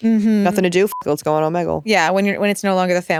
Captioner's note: beep